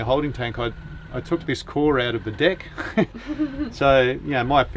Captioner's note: laughs